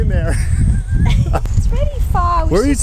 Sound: both laughing

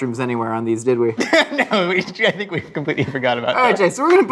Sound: laughs

